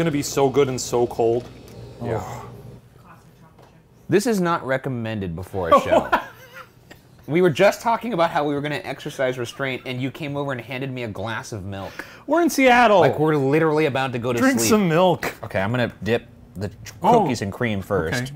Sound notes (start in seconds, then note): 5.7 Shane laughs